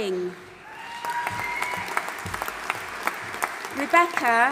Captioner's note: audience applauding and cheering